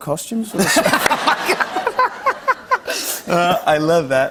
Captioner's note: laughter